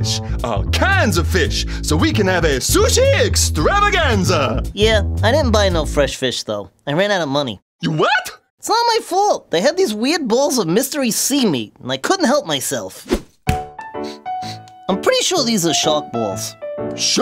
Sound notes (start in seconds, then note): 14.0 sniff sniff